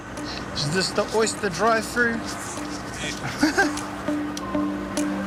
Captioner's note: laughs